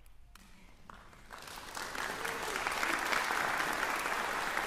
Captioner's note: applause